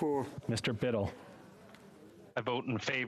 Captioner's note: speaking French